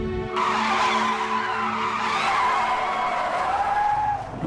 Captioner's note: tires squealing